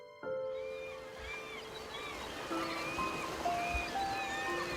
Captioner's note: birds squawking